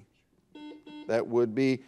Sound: buzzer dings

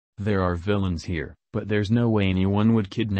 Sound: none

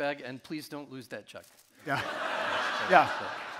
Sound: audience laughing

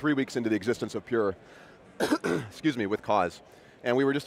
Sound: coughs

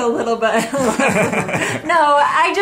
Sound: laughs

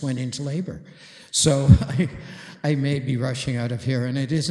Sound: chuckles

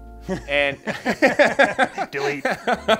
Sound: both laughing

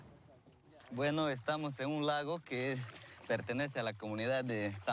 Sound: speaking Spanish

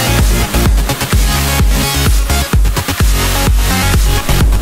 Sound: waves crashing; upbeat music

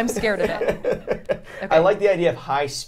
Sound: laughs

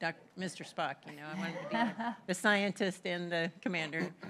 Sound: laughter

